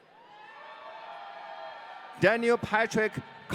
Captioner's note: audience cheering